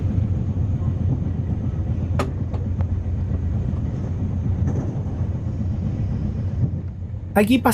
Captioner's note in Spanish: sonido de las vías del tren, en la noche